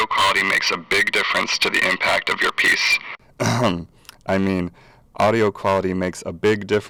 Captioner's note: ahem